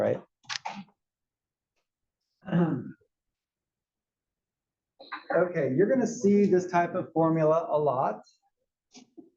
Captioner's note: cough